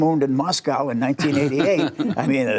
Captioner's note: laughter